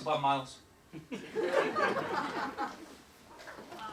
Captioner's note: laughter